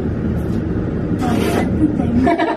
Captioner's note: fake fart